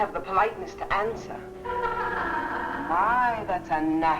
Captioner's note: Vi laughing